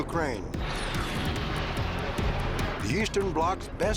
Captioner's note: jets whooshing